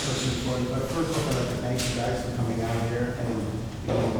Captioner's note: muttering question